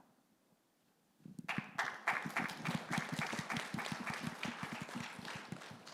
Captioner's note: audience clapping